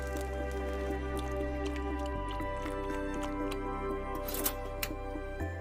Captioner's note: milk bubbling